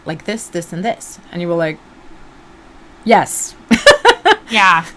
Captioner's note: laughs